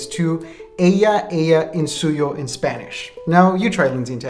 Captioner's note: speaking in a foreign language